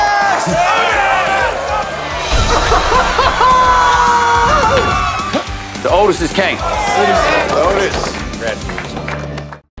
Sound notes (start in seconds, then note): 2.5 laughs; 4.1 cheering; 7.4 applause